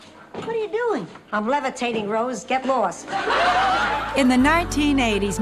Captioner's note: laughs